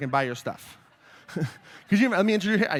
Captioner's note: laughter